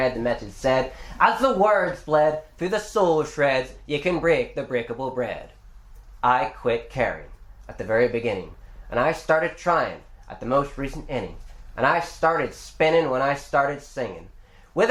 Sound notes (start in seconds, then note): none